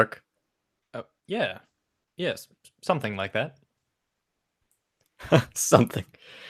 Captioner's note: laughs